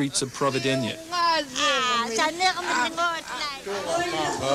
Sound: speaking yup'ik dialect

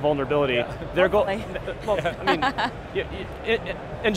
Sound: laughs

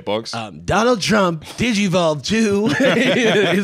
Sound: laughs

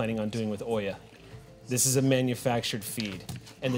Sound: none

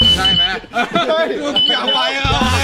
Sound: awkwardly chuckles

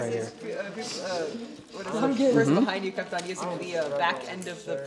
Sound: chatter

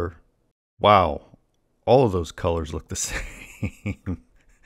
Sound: laughs

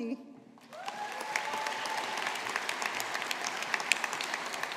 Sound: audience applauding

